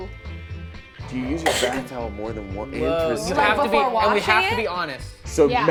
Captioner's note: overlapping chatter